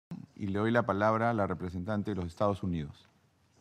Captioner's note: in Spanish